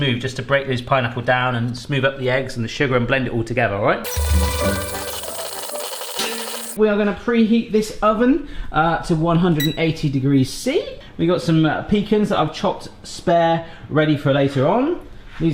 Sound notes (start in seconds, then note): 4.0 bright music; 4.0 buzzing mixer